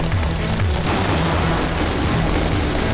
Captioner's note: Gunshots